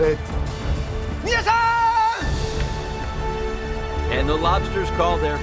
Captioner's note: speaking in foreign language